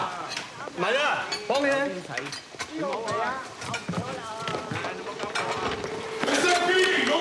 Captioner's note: speaking native language